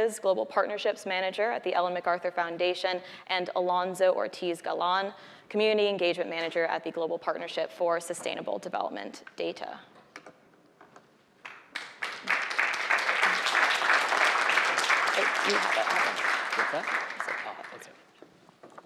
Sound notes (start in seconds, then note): 11.4 applause